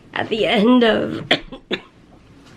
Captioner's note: coughing